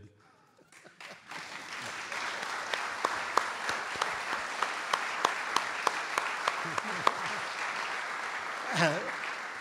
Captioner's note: audience Applause